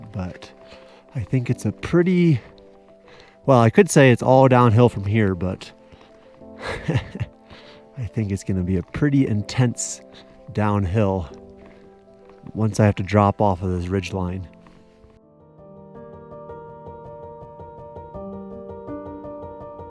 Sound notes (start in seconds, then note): 6.6 laughing; 16.0 bright piano music